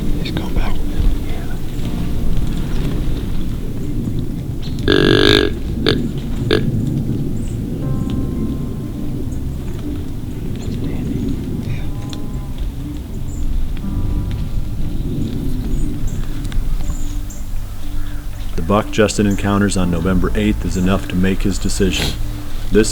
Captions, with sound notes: He's going back. [Grunt call] [Soft music, whispered voices] The buck Justin encounters on November 8th is enough to make his decision. This